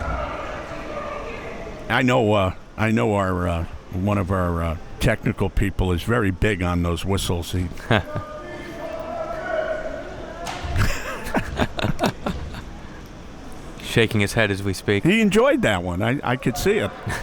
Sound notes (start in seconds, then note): 0.3 spectators chattering; 7.9 spectators chattering; 10.7 laughing